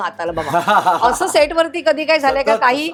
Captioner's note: chuckles